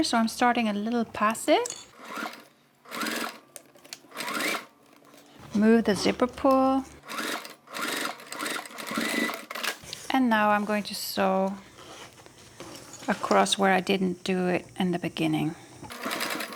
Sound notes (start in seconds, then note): 2.8 sewing machine whirring; 7.3 sewing machine whirring; 15.8 sewing machine whirring